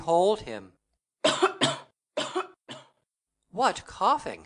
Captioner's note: _MIMI coughs persistently_